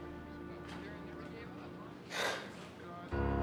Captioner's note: gasps